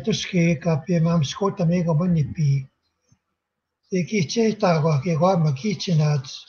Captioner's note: speaking Indigenous language